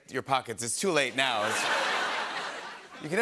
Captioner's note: laughter